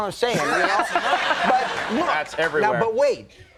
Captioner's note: audience laughing